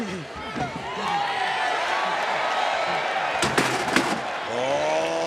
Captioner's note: crowd cheers